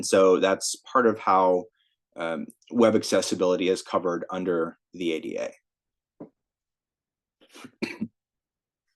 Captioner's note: cough